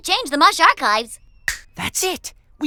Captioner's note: snaps